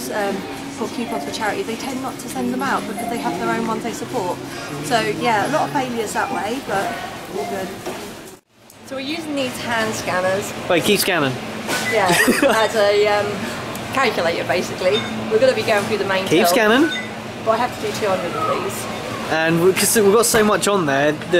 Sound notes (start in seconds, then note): 12.0 laughter; 16.6 indicator sound